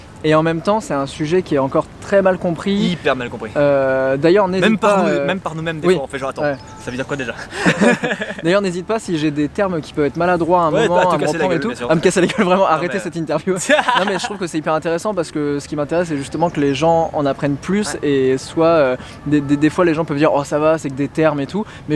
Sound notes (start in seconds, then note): 13.5 both laugh